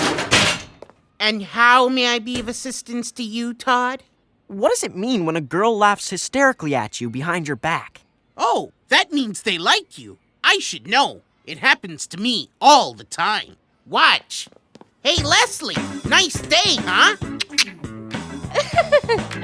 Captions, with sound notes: AND HOW MAY I BE OF ASSISTANCE TO YOU, TODD? WHAT DOES IT MEAN WHEN A GIRL LAUGHS HYSTERICALLY AT YOU BEHIND YOUR BACK? OH, THAT MEANS THEY LIKE YOU! I SHOULD KNOW. IT HAPPENS TO ME ALL THE TIME. WATCH. HEY, LESLIE! NICE DAY, HUH? (CLICKS TONGUE) (BURSTS OUT LAUGHING)